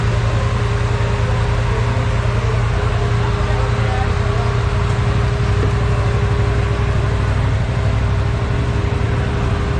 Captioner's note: engine revving